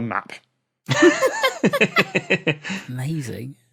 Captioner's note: guests laughing